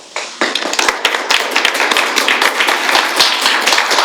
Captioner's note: applause